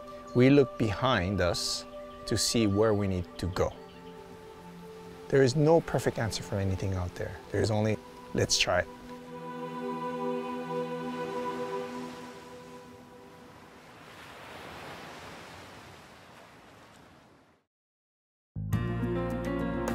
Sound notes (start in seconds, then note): 13.5 waves lapping; 18.6 moving music